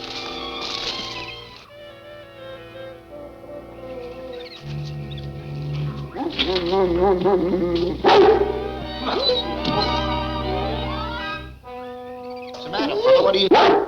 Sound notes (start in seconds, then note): 8.1 dog barks; 9.6 dramatic music continues